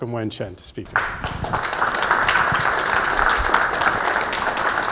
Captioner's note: audience clapping